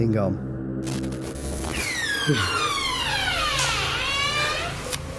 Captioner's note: door creaks loudly